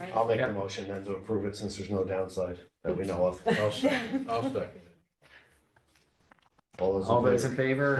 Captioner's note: laughter